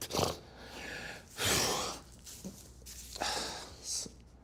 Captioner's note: sobs then exhales